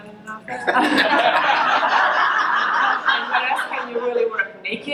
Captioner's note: laughs